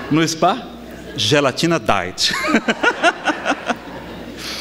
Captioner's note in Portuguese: Gargalhadas